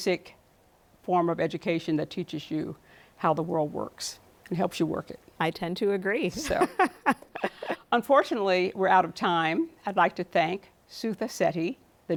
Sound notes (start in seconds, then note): 6.4 laughs